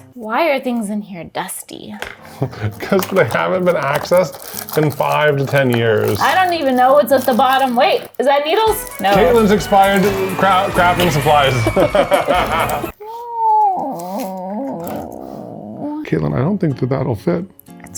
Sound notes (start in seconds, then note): 12.9 laughs; 13.5 groaning